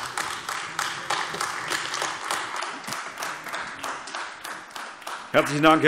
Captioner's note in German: Beifall AfD